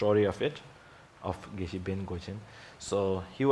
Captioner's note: speaks in foreign language